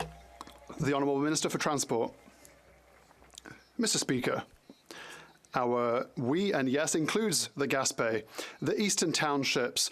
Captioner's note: some Applause